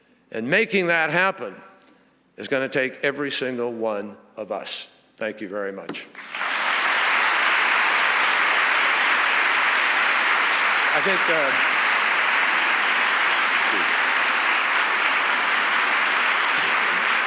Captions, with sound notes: And making that happen is gonna take every single one of us. Thank you very much. (audience applauds)